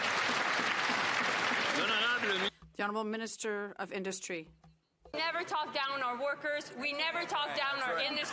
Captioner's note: some Applause